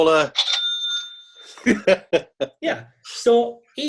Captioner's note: bell ringing